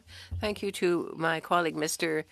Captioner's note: speaking French